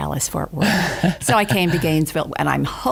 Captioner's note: laughing